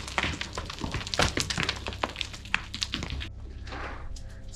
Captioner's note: rocks falling